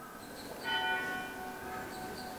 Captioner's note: church bell